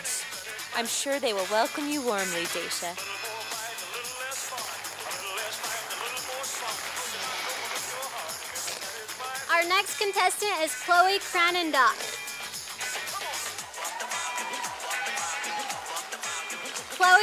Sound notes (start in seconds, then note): 3.0 sound of applause from audience; 13.0 sound of cheers from audience